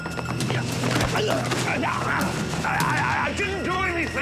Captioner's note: man grunting